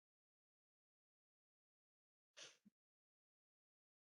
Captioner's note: pause